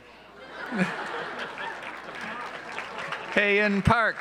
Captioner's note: audience laughs